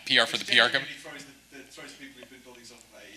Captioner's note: speaks faintly